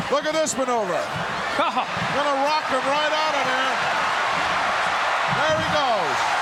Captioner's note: laugh